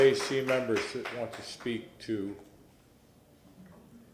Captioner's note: applause